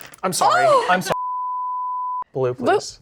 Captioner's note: beep